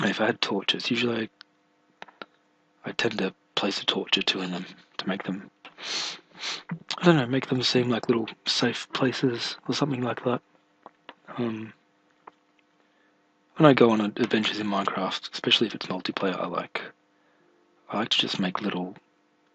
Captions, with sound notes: If Ihad torches--usually I I tend to place a torch or two in them, to make them [sniff] I dunno, make them seem like little safe places, or something like that Um When I go on adventures in Minecraft, especially if it's multiplayer, I like I like to just make little